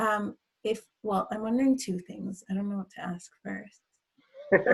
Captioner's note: laughs